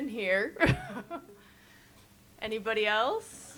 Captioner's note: chuckles